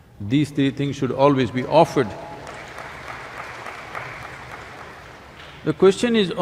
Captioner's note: applause